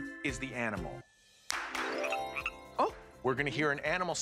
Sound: frog croaking

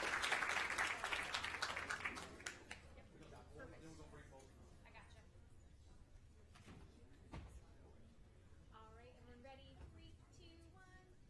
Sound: applause

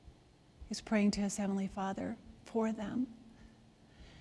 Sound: none

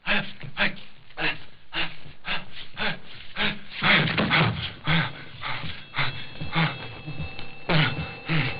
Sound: heavy Breathing

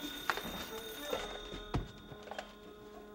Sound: telephone ring

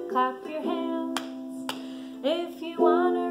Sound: clapping

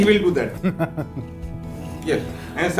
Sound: laughing

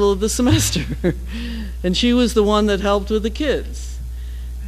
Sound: laugh

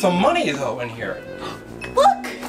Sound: assistant gasps

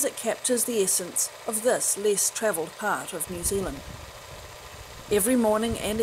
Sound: film projector sound

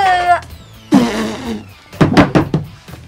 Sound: spitting

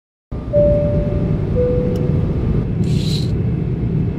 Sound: airplane beeping

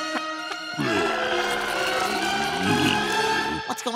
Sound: groaning

